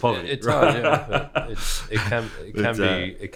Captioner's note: people laughing